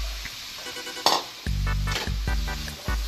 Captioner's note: sizzle sizzle